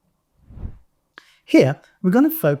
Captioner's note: graphics whooshing